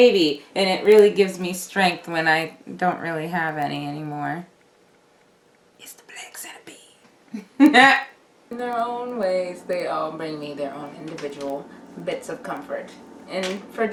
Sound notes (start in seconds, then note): 5.1 whispers; 7.4 laughs